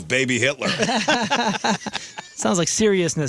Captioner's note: laughing